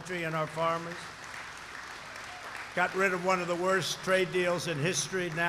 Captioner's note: applause